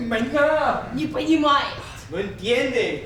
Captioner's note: speaking in a foreign language